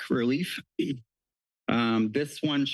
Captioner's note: clears throat